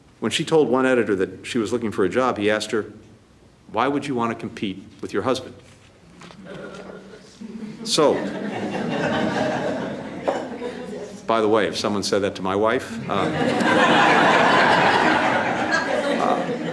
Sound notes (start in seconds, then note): 7.3 laughter